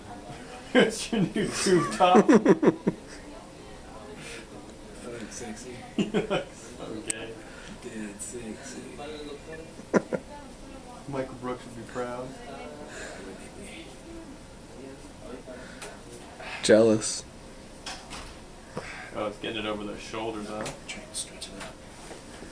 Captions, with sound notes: (friends laughing) - Do I look sexy? - (laughing) You look so gay. - Getting sexy. - Michael Brooks would be proud. - Why wouldn't he be? - Jealous. - Oh, it's getting it over the shoulders. - Trying to stretch it out.